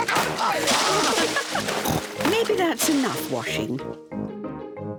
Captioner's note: laughs